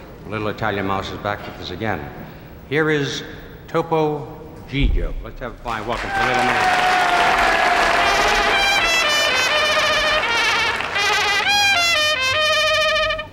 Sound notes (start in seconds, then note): 7.4 audience cheering